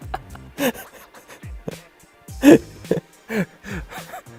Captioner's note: laughs out loud while sneezing